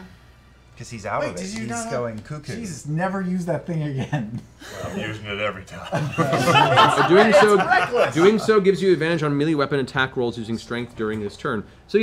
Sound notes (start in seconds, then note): 5.8 laughter